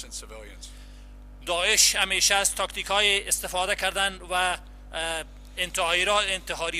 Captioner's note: translator speaking in foreign language